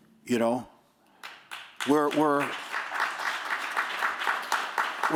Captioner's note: applause